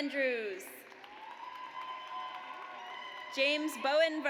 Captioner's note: audience cheers